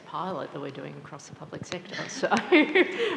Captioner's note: laughs